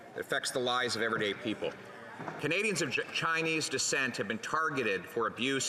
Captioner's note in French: voix de l'interprète